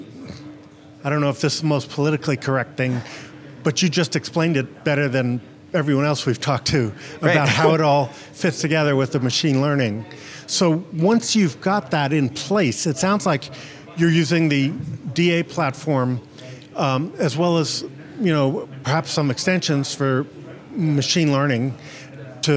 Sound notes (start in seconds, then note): 7.2 laughs